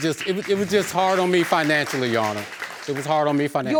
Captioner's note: audience applauding